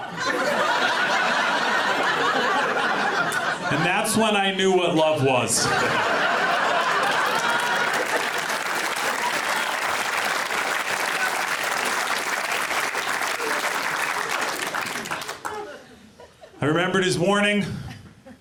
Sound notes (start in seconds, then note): 0.0 audience laughs; 7.2 audience clapping